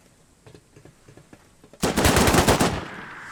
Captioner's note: enermy gun shots